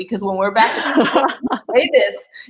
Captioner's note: laughter